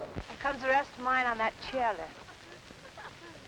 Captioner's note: laughter